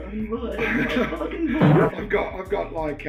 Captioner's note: laughter